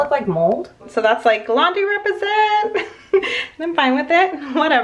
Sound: laughs

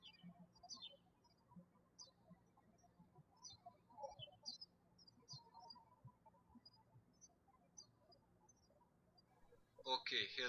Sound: birds chirping

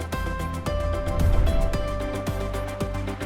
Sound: air whooshing; bright upbeat music continues

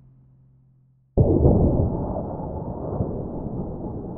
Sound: distant crash

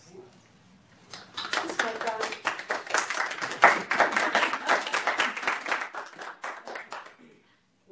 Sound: applause

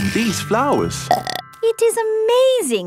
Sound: burps

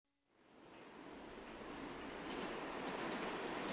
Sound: train whooshing

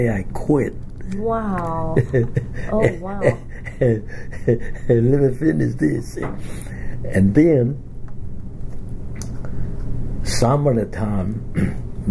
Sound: laughs; coughs

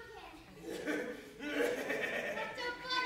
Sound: Wolf laughs

